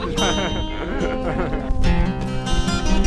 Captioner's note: laughing